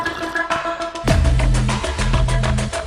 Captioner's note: liquid slurping; person sighing